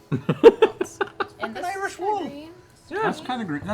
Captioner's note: Irish accent